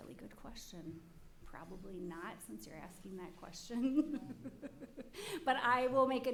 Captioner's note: laughs